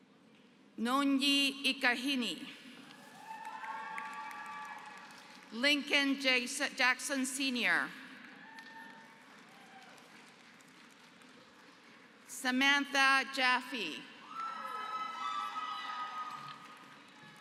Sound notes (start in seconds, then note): 3.0 applause; 8.2 applause; 14.3 applause